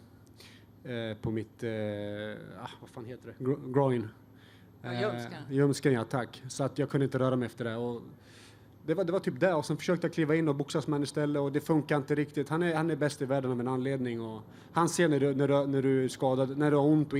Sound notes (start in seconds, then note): 3.5 speaking foreign language